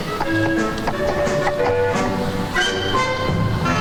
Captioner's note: horse hooves clopping; gentle upbeat music